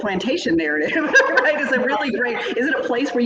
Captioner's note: laughs